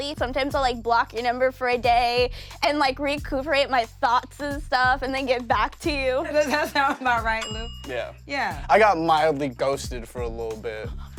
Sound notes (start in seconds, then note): 6.4 bell rings; 8.1 jazzy